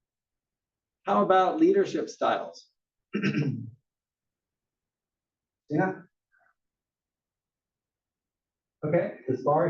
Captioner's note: cough